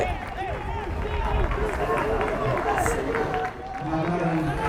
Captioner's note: fans yelling